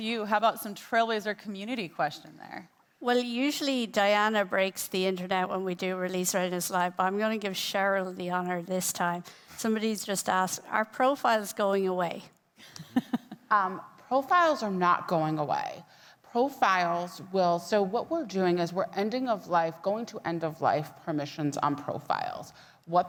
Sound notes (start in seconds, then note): 12.6 laughing